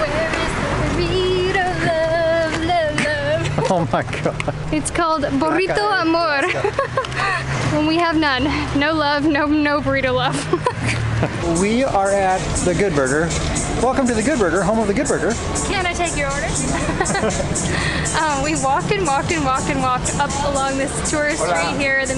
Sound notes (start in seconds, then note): 2.8 laughs; 10.8 laughter; 16.8 laughter